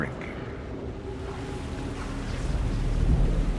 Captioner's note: wind blowing